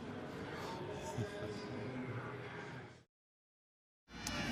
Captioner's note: pa announcement